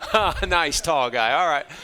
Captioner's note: chuckles